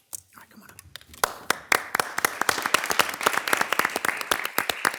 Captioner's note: audience applauding